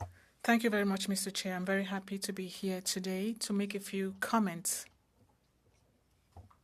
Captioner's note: speaking French